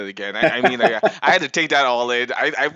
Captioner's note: laughs